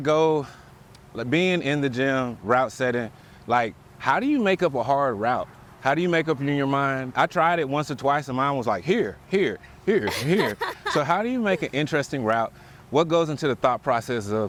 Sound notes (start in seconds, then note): 10.0 laughs